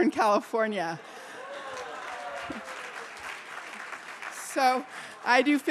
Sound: applause

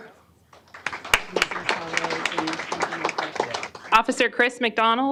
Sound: applause

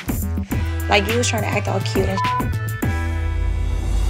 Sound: beep

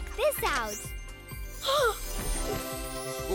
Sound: MB gasps

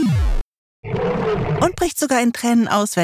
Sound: Godzilla roars

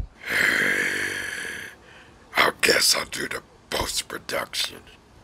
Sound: snarl

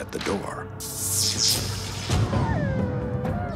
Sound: howling

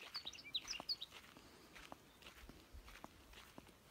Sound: birds singing

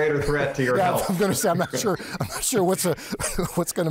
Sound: laughing

